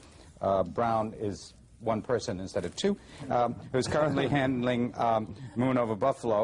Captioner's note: laughter